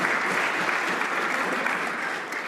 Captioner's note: applause